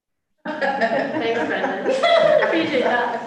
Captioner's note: laughter